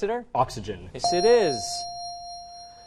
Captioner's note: correct answer chime